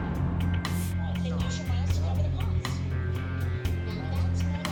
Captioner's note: chatter